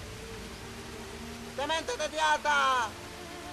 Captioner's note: speaking native language